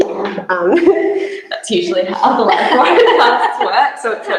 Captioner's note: laughs